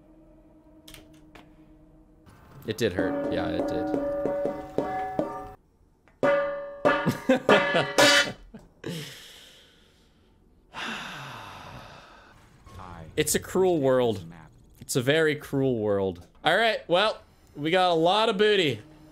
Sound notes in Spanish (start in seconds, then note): 2.9 gong gong gong; 6.1 gong gong; 10.7 suspiro de tristeza